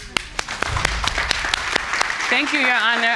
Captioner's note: applauding